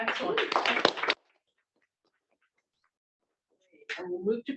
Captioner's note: applause